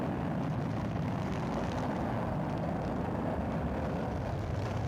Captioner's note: none